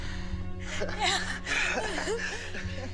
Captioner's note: laughing